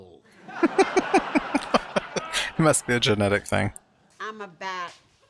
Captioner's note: laughing